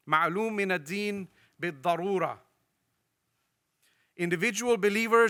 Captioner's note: speaks in foreign language